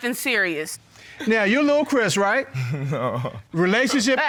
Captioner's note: chuckles